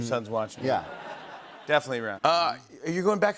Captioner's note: laughter